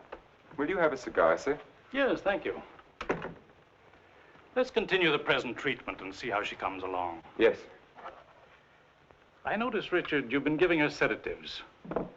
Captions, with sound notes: - Will you have a cigar, sir? - Yes, thank you. (door thumping) Let's continue the present treatment and see how she comes along. - Yes, sir. - I notice, Richard, you've been giving her sedatives.